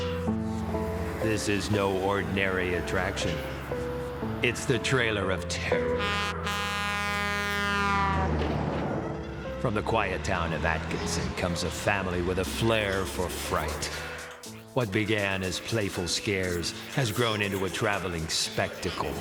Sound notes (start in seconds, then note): 5.8 horn honking; 8.6 engine roaring